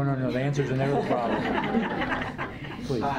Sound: laughter

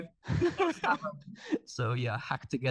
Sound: laughing

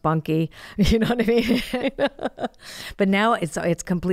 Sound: laughs

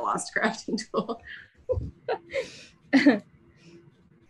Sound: laughs

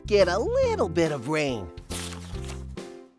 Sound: paper rustling from turning the page

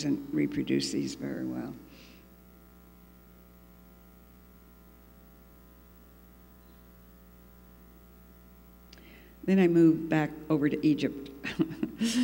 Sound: laughs

